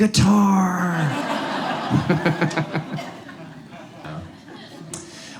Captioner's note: audience laughs